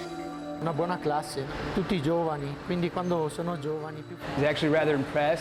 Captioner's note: speaking foreign language